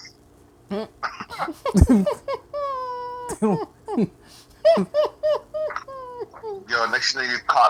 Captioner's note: laughing